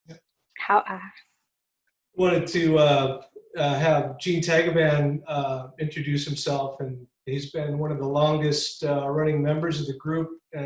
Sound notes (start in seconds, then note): 0.6 speaking Haida